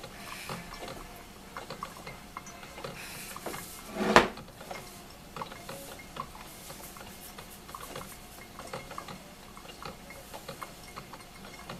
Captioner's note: imitating Cheech and Chong; sound of coffee brewing